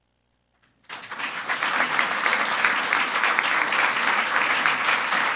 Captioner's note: audience applauds